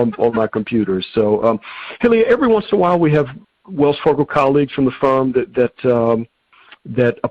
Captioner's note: chuckling